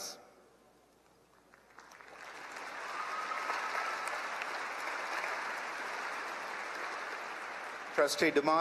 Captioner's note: applause